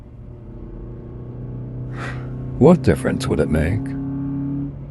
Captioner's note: sighs